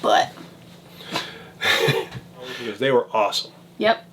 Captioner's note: laughs